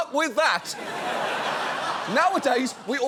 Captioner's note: studio audience laughs